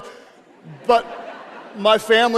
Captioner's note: audience laughs